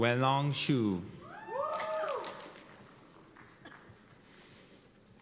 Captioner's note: cheers and applause